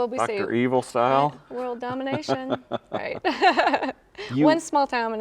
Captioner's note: laughs